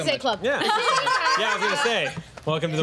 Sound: laughter

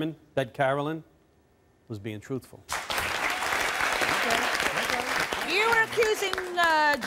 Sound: audience clapping

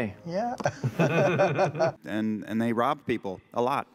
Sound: laughter

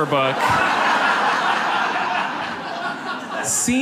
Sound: audience laughs

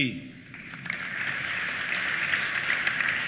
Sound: applause

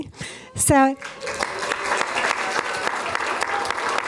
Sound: applause

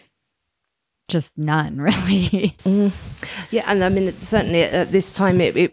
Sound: laughs

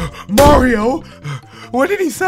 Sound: panting

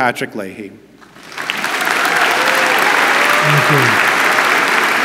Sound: audience applauds

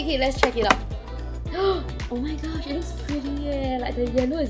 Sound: gasps

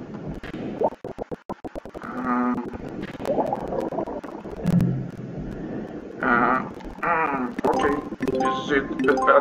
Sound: sound of submarine

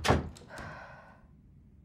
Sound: deep sigh

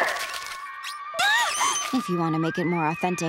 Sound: shrieking

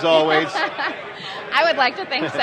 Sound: laughing

